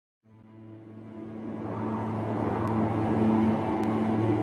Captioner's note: wind whirring